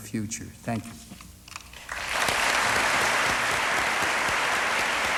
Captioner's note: applause